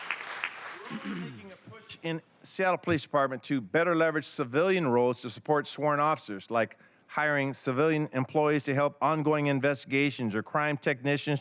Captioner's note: applause